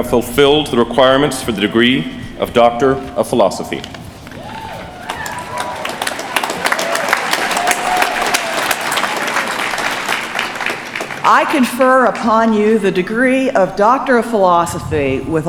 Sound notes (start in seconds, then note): 4.7 applause